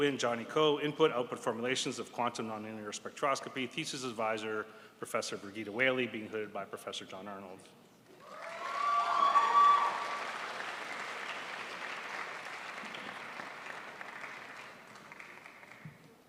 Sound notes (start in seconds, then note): 9.9 crowd applauds